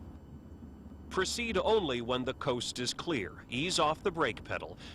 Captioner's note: voiceover